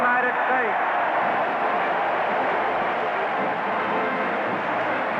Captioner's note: cheers and applause